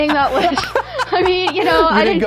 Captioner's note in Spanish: risas